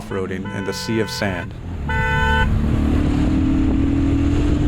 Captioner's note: vehicles honking